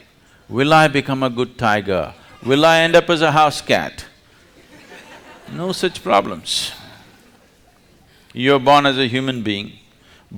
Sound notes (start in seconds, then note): 4.4 laughter